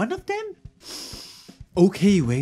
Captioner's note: breathes